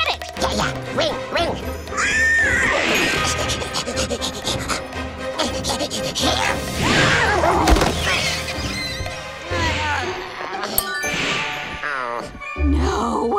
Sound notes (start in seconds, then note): 2.0 whinnies; 3.4 panting; 6.4 whinnies